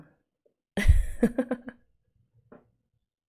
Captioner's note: laughs